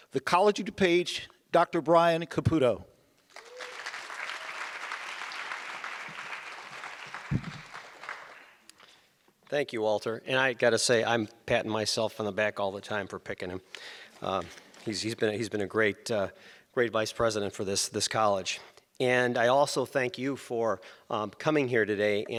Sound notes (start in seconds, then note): 3.3 audience applause